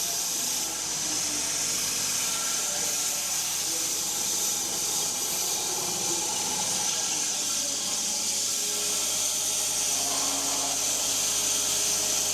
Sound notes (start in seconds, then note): 7.8 log saw whirring continues